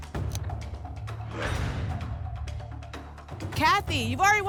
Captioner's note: lock sound